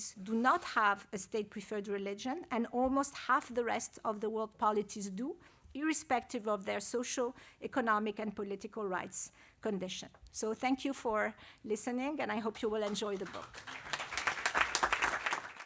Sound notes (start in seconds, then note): 12.8 applause